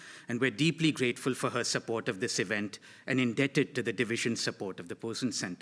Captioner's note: none